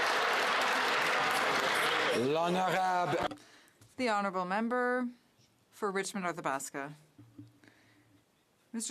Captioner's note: some Applause